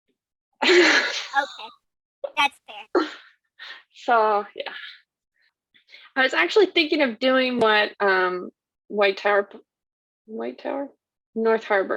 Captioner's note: laughs